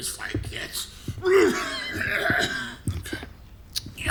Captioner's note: wet coughing